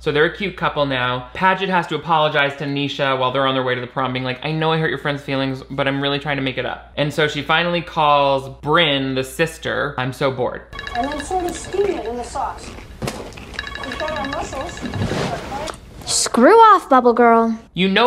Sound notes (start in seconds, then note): 11.0 phone ringing